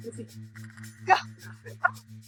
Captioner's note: laughs